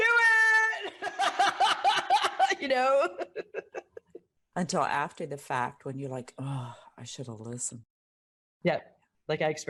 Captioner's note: laugh